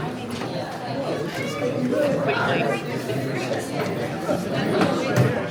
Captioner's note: crowd chattering